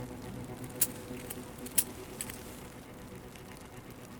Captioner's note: chain clanking